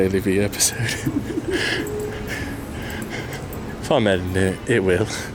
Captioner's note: chuckles